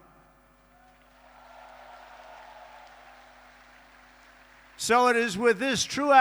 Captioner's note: applause